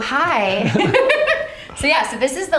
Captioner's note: both laugh